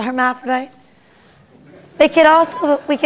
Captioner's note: laughter